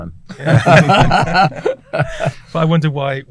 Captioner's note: all laugh